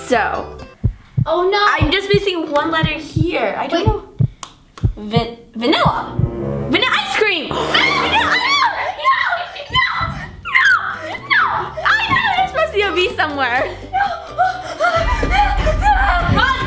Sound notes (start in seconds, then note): 7.6 cheers